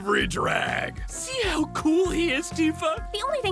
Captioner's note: gushing